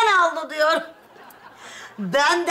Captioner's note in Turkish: Gülme efekti